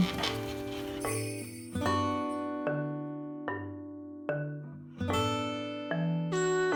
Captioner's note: sniff sniff... sniff sniff